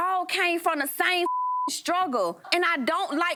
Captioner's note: beep